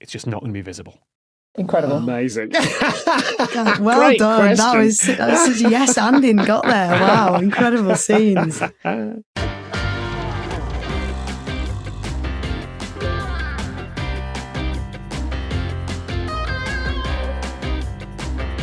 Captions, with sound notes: it's just not going to be visible. Incredible. Amazing. (laughs) Great question. Well done. That was such a yes-anding, got there. Wow, incredible scenes. Caption+ by JS* caption.plus | @caption_plus